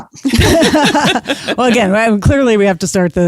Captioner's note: laughs